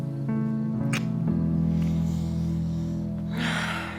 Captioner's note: tender music continues; lips smooching; Angela sighing